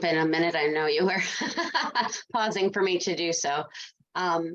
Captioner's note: laughs